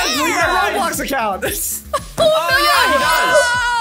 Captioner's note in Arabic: ضحكة مكتومة